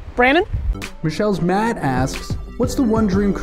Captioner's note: voiceover